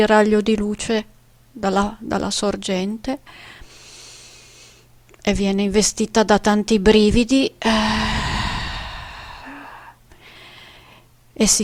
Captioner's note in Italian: sospiri